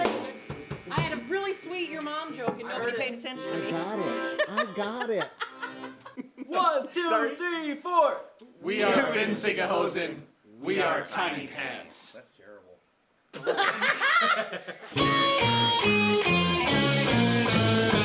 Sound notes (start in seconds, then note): 5.3 laughs; 13.3 everyone laughs; 14.9 upbeat punk polka